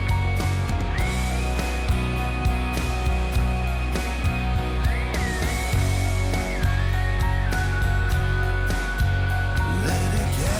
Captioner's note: whistling; whistling